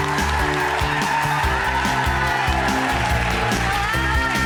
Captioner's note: bright music; crowd cheering